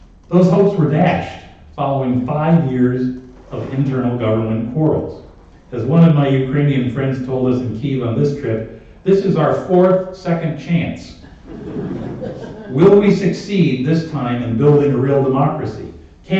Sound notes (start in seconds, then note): 11.3 laughter